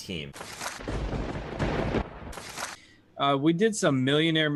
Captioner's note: thunder cracking